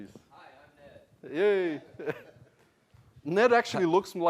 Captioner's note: laugh